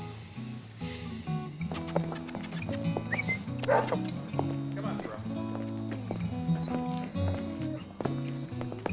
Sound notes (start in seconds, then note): 3.0 tom whistles; 3.6 thoreau barks